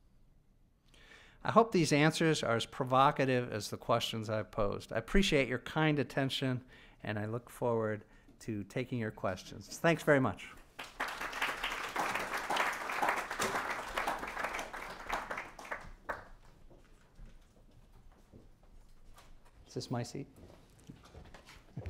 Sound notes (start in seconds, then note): 13.4 applause